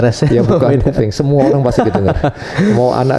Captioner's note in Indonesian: tertawa